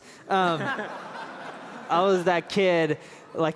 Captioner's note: laughter